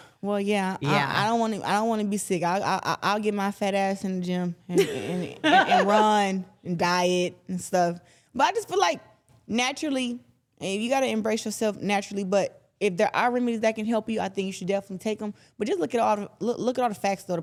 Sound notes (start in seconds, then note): 4.8 laughs